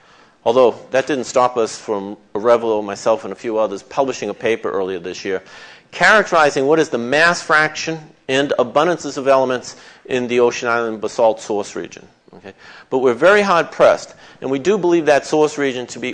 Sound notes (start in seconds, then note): none